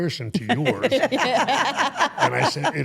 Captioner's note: interviewers laughing